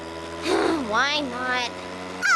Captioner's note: sighs